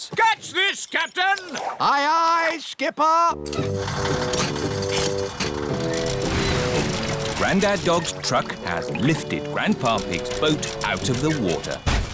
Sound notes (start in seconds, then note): 3.5 whirring